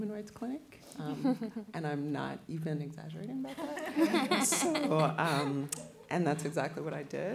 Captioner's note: laughter